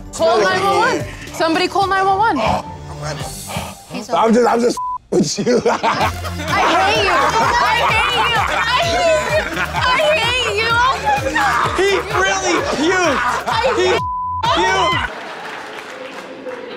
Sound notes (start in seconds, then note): 4.8 beep; 13.9 beep